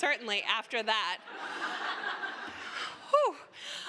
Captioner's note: laughter